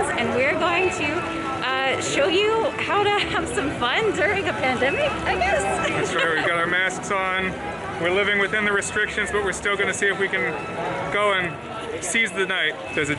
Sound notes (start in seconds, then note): 4.7 laughs